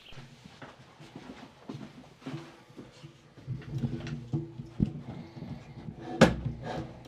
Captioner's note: footsteps shuffle; camera shuffles